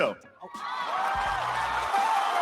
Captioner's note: audience cheering